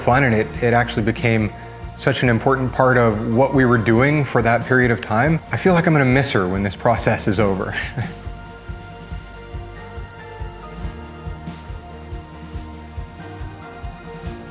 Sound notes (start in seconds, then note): 7.9 chuckles; 9.2 soft music